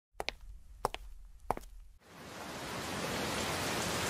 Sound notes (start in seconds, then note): 0.1 footsteps getting closer; 2.0 rain starting to pour down